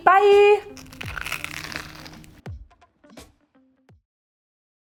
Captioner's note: light music; bread crunching